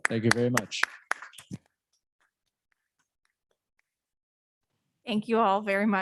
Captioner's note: audience applauds